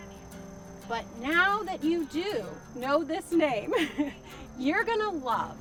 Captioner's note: chuckles